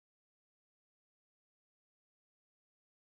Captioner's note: none